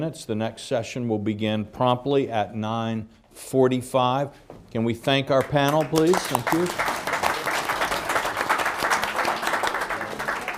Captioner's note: applause